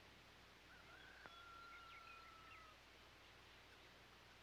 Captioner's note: rooster crowing